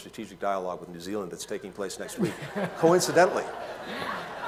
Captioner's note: laughter